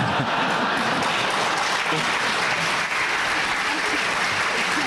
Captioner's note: applause